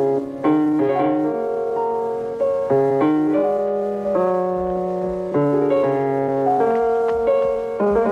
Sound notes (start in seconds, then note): 4.6 finger snaps